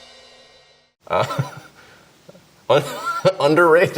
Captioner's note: laughs